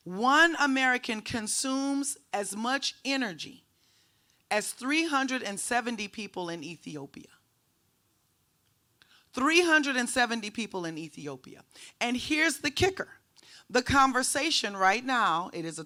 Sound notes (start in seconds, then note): none